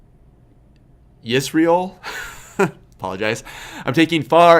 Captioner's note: laughs